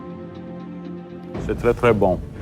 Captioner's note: speaks french